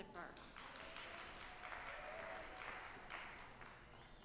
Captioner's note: audience applauding